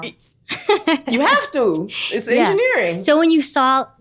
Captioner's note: laughter